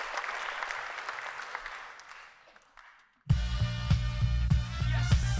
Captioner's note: applause